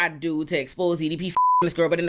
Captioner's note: beep